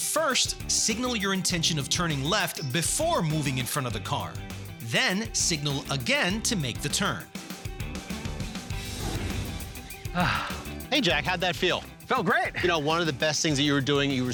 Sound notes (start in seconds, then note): 10.1 sighs